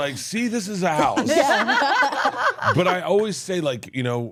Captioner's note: laughs